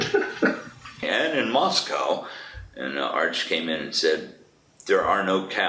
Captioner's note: laughs